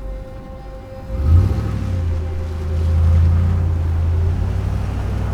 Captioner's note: gentle suspenseful music; truck engine humming